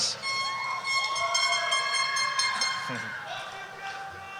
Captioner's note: horn blowing